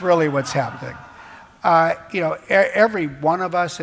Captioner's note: laughs